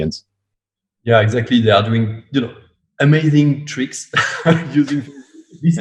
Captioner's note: laughs